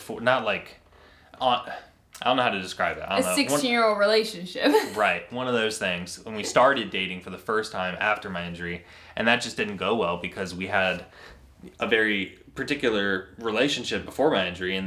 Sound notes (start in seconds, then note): 4.6 laughs